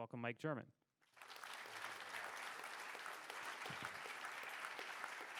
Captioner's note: audience applauding